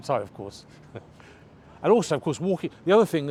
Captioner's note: chuckles